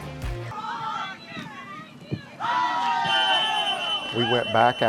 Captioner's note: crowd cheering